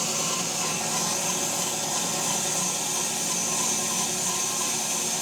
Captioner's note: saw buzzing continues